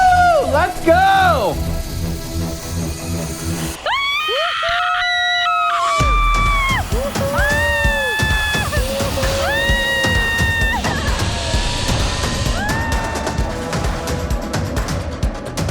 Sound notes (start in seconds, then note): 4.1 screaming; 12.1 upbeat music